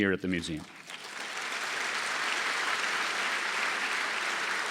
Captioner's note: audience applause